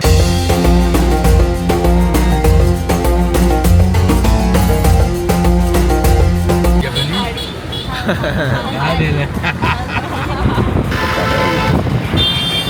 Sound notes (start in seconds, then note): 7.8 laugh